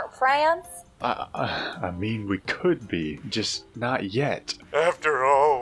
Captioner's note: stammers; sobbing